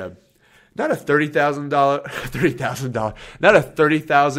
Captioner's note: laughs